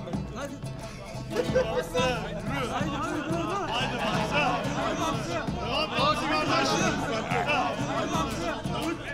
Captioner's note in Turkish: Müzik - Neşeli; Tezahürat sesleri